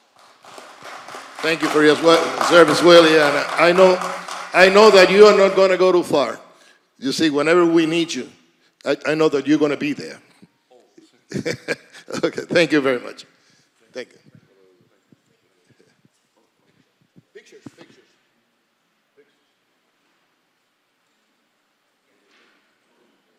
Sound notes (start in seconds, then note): 4.6 applause